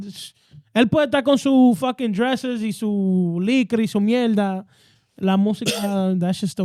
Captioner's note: speaking In Foreign Language